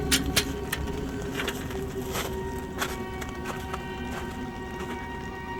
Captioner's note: gate locks; footsteps crunching